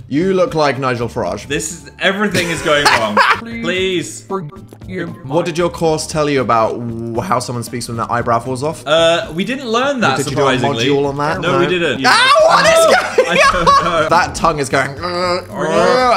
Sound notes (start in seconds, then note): 2.3 laughing